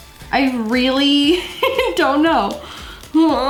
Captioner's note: laughs